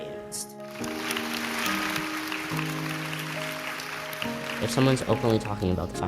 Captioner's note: audience applauding